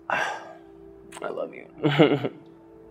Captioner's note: sighs